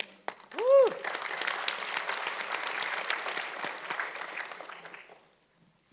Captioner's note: audience cheering and clapping